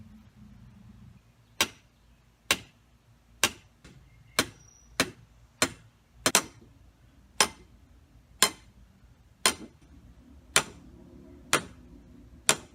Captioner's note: hammering